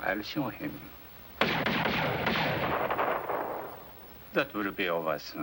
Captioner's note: gunfire